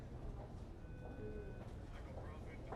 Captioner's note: machine beeping; voice over radio